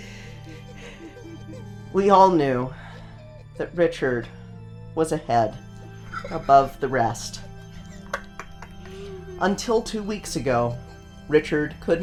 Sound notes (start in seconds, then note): 0.0 fails his attempt to not laugh; 5.8 laughs